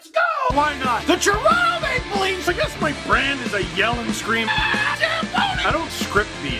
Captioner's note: rock music plays throughout intro; screams